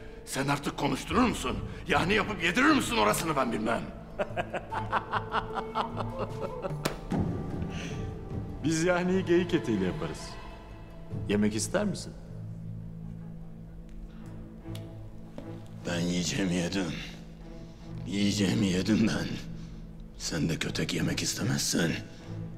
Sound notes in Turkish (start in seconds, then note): 4.1 Gülme sesi